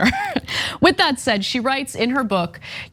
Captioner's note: laugh